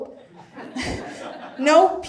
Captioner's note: audience laughs